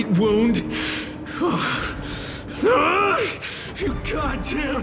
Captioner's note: groan